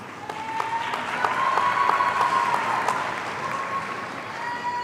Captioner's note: audience cheering